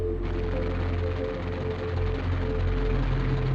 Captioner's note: plane roaring